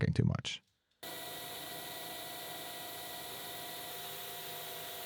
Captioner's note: machine whirring